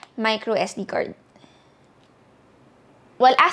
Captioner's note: breathing intensifies